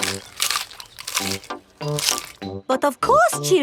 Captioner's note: munching